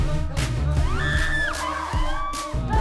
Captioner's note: all screaming